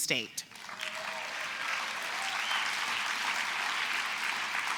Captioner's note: applause